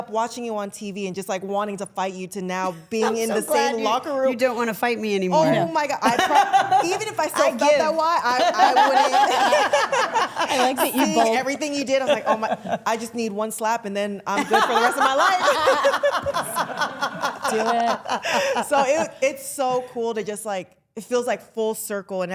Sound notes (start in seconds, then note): 9.9 all laughing; 14.3 all laughing